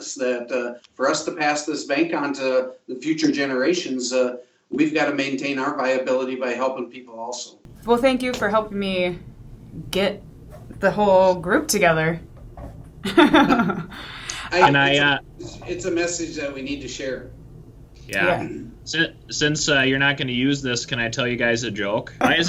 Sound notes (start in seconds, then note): 13.0 laughs